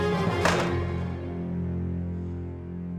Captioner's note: flask clatters to floor